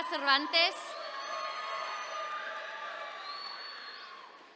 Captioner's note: attendees cheering